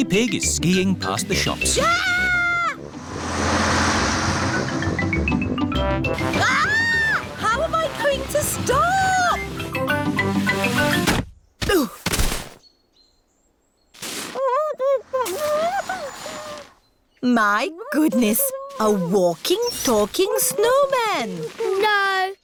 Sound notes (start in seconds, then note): 1.7 shrieks; 6.3 shrieks; 12.1 groans; 14.8 muffled groans